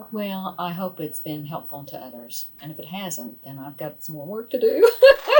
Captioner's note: laughs